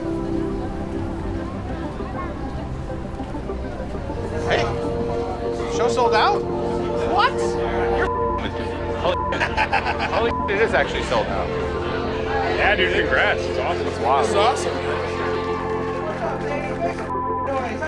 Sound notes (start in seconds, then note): 7.9 beep; 9.1 laughs; 9.3 beep; 17.3 beep